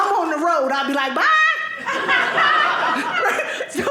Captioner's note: audience laughing